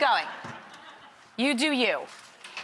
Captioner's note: audience laughs